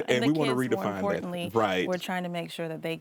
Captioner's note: laughs